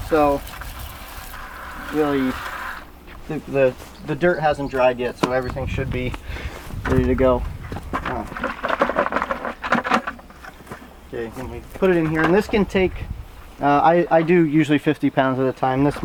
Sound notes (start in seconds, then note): 8.0 carrots tumbling